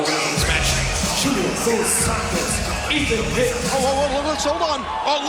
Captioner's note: bell rings